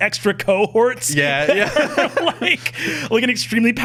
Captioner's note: laughing